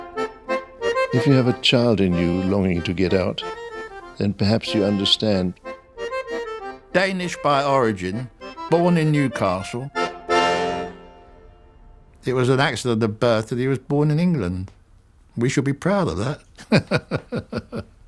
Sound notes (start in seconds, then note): 16.5 laughs